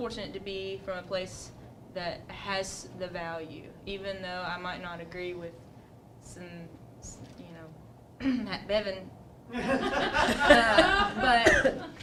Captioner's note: laughter